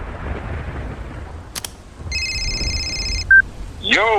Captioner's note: phone rings